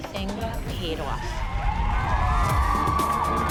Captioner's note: cheering